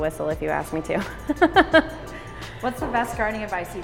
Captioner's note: laughs